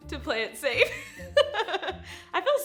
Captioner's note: laughing